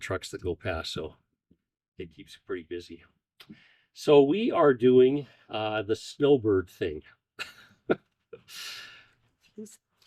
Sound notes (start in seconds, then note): 7.4 laughter